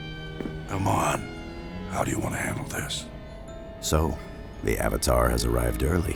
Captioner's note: none